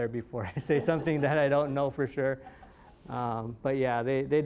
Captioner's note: all chuckling